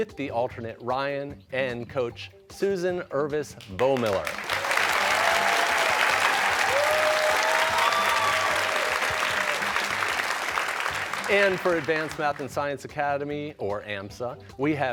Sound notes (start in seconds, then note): 5.6 cheers and applause